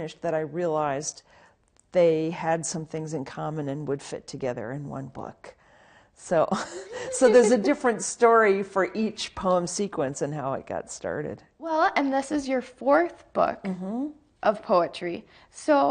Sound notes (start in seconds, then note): 6.5 giggles; 6.6 chuckles